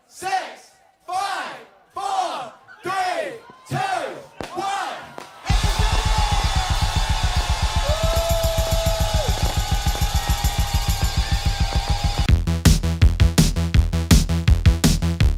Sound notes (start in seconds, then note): 7.4 cheering